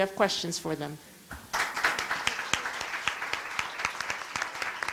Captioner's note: applause